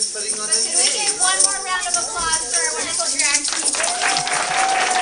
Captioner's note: applause